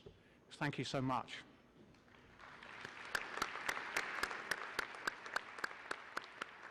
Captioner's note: audience applauds